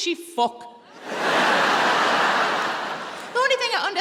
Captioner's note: audience laughing